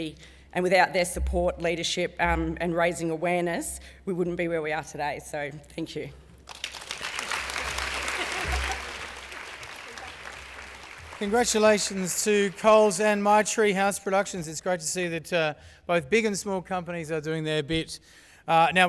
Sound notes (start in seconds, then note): 6.4 applause; 7.8 laugh